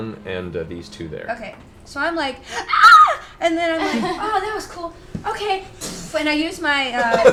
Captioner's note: screams; pff